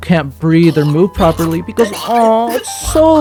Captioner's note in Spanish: Sonidos de muerte dolorosos e insoportables